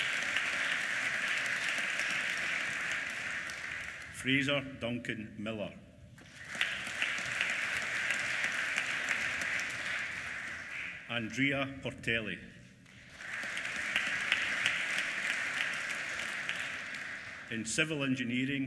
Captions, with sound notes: Fraser Duncan Millar. (APPLAUSE) Andrea Portelli. (APPLAUSE) In civil engineering,